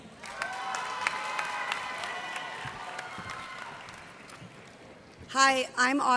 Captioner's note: cheers and applause